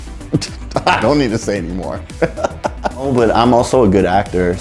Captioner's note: laughing